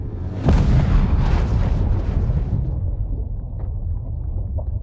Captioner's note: spacecraft crashes